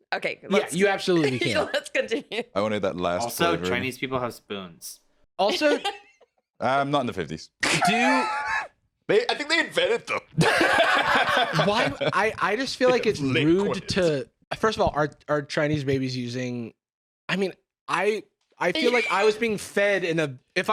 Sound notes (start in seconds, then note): 7.6 laughing; 10.3 laugh